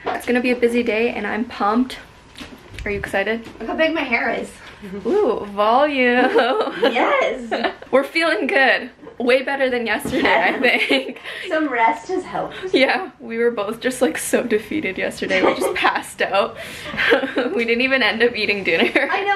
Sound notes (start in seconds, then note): 6.2 laughs; 10.2 laughs; 15.3 laughs